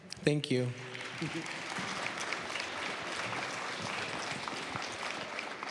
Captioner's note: applause